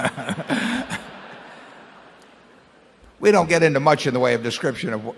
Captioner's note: laughter